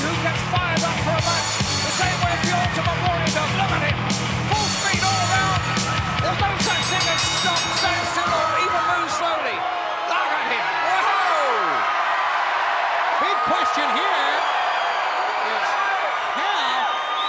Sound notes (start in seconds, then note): 6.5 bell rings; 12.1 crowd cheers